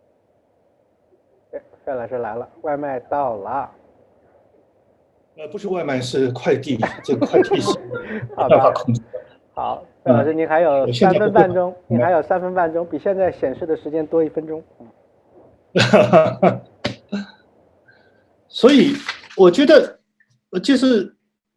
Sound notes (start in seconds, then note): 6.8 laughs; 15.7 laughs